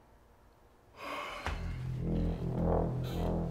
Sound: sighs

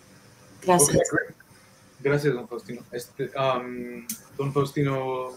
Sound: speaking in foreign language

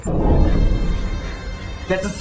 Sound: explosion

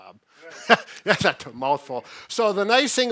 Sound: laughs

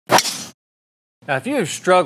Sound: whooshing

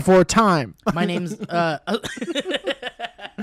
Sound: laughter

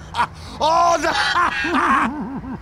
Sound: raucous Scottish laughter; raucous Scottish laughter continues; Tiny pyro laugh

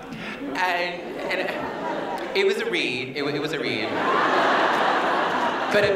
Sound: laughter

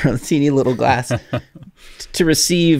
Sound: laughs; chuckles

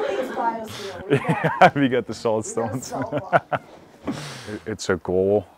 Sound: everyone laughs; laughing

